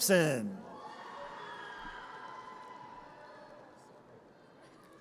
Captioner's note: audience cheers